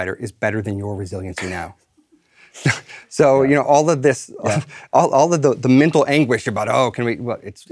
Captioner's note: laugh